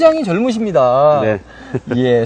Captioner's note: laughs